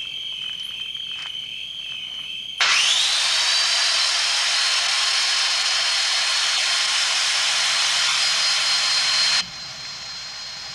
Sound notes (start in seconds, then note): 2.6 motor; 2.8 click; 9.5 muffled motor